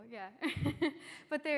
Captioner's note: laughter